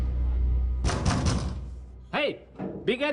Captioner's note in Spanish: Toques en la puerta